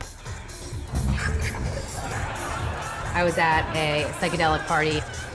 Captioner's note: partying sounds